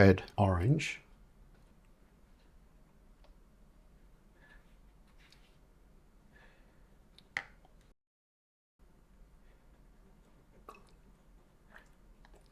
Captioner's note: silence